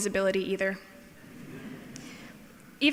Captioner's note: laughing